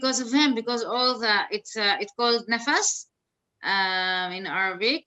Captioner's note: speaks in Arabic